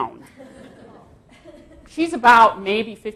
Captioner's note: audience laughs